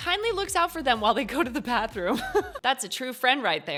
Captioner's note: chuckles